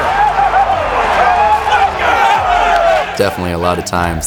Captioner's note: cheering